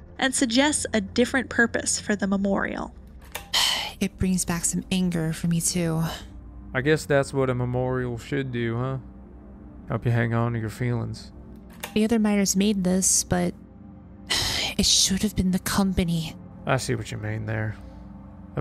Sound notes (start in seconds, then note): 3.7 sigh; 14.6 sigh